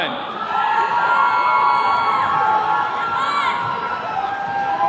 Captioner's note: attendees cheering